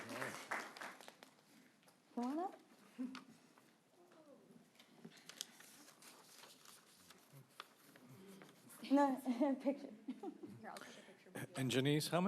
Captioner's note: applause